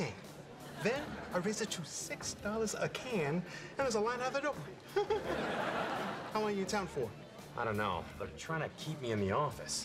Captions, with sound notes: Then I raised it to six dollars a can. There was a line out the door. (laughs) How long are you in town for? I don't know. They're trying to keep me in the office,